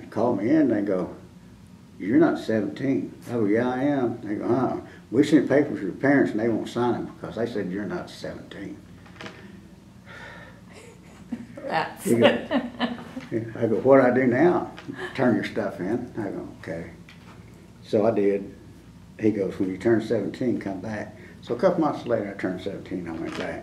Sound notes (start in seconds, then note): 12.1 laughter